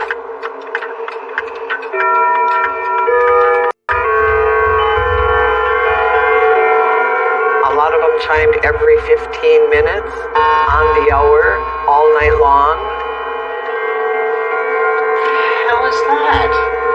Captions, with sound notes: [clockchchimg] A lot of tm m ched every 15 minutes, onhe h hr, all night long. [clockchchimg] at the hell is that?